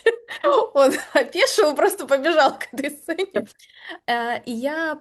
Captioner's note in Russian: смех